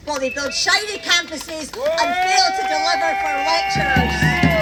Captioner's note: cheering